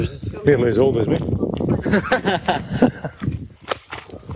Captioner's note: laughter